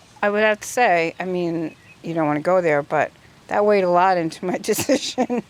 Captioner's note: chuckles